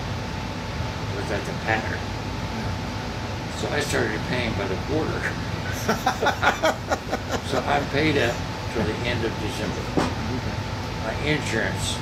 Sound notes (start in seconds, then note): 5.6 laughing